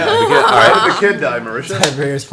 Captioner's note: laughs